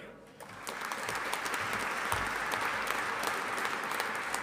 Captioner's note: audience applauding